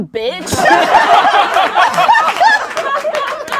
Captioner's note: laughing